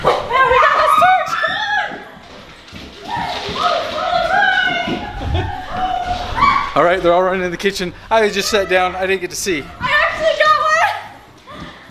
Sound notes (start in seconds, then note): 3.0 screaming